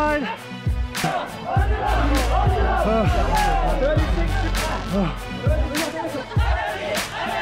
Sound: energetic pop music; chanting in foreign language

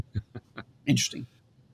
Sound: laughs

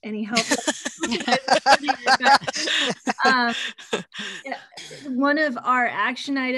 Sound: laughter

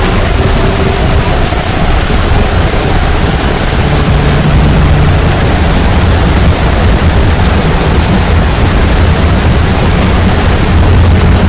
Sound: phantom mangle noises; rumble

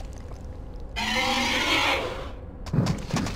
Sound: roar

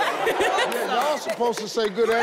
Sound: crowd laughing

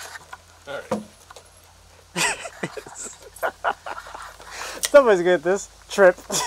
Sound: laughing

